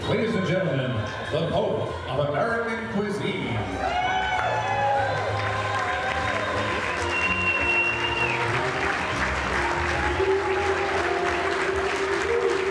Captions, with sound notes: >>Ladies and gentlemen, the Pope of American Cuisine. (guests cheering and applauding)